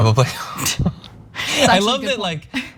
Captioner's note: laugh